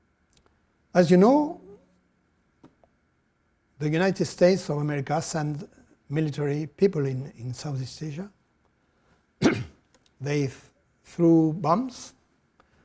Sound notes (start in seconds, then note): 9.4 coughs